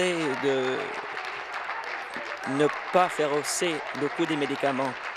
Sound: applause

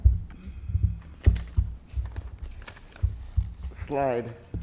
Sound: flipping pages

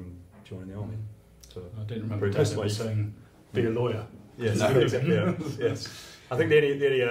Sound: laughs

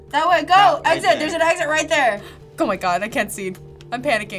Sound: gasps

